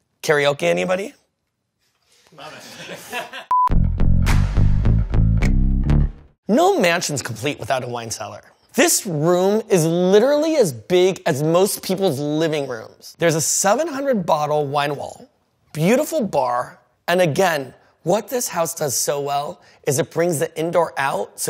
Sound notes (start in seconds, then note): 2.5 laughing; 3.5 upbeat music